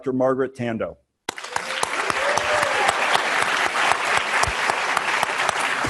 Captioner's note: students applauding